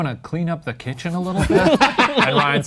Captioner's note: laughing